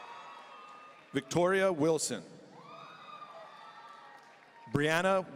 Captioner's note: audience cheering